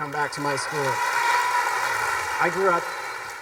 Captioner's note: students clapping